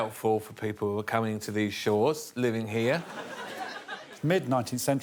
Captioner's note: audience laughing